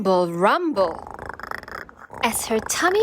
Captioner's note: stomach growling